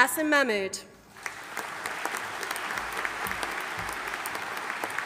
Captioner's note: audience applauding